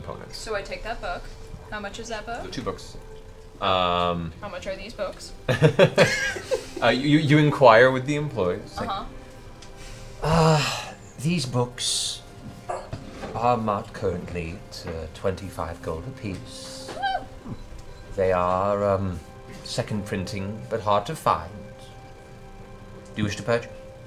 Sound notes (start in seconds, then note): 5.5 laughs